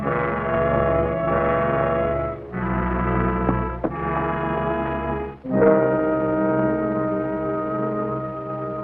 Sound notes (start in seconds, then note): 0.0 dramatic music continues; 3.5 footsteps racing; 5.5 dramatic music